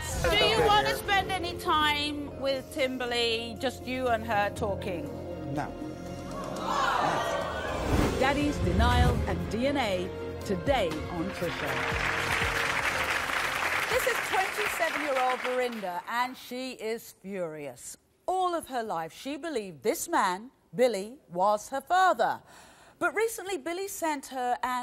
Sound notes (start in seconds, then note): 6.7 audience gasps; 11.2 audience applause